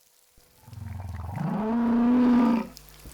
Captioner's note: whale bellowing